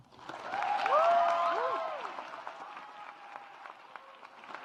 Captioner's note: audience applauds